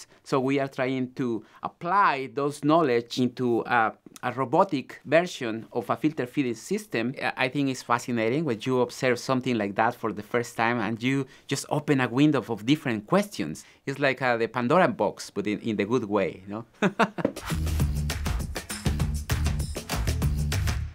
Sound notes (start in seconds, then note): 16.7 laughs; 17.2 upbeat music